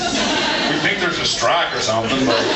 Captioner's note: drawls